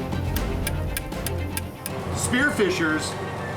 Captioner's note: metal tapping